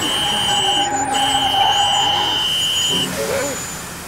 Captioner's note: tires screeching